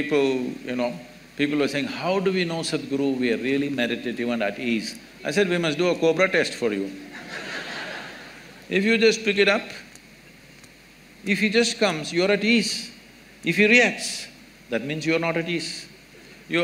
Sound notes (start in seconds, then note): 7.1 laughter